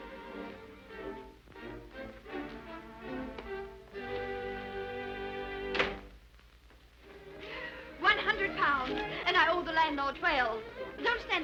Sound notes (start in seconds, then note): 0.0 light playful music; 5.7 door thudding